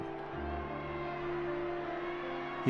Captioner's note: shouting